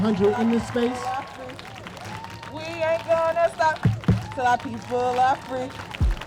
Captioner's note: crowd chants; applause